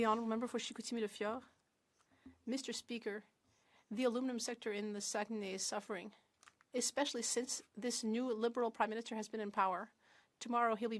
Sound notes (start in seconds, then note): 2.7 speaking French